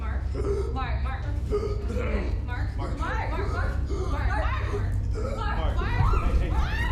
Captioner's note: choking